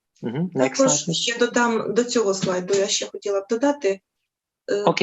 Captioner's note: foreign Language